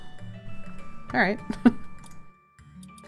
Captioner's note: laughs